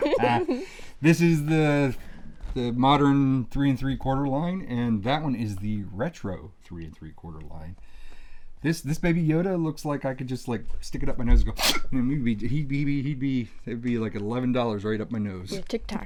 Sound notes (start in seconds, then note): 0.0 laughs; 11.6 sniffs